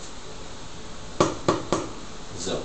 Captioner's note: knock, knock, knock